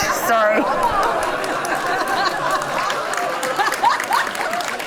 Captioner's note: audience laughs